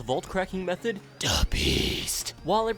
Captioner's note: demonic voice: da beast